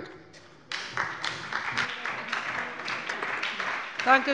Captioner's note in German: Beifall bei der SPD